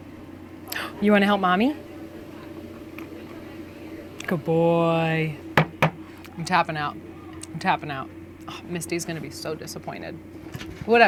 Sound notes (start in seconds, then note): 5.6 hand taps